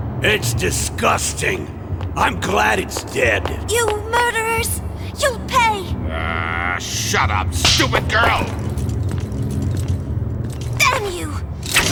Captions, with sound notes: It's disgusting! I'm glad it's dead! You murderers! You'll pay! (Grunts) Shut up, stupid girl! Damn you!